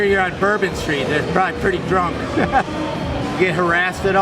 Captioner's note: laughing